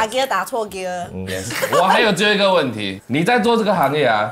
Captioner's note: laughs